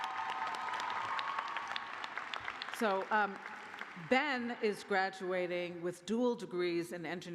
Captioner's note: cheers and applause